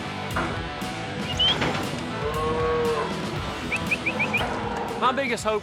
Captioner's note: whistling, mooing